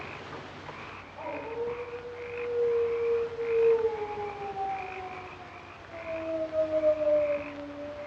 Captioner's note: sound of dog howling